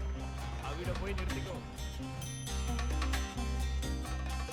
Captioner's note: speaking foreign language